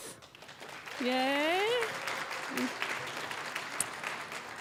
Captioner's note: applause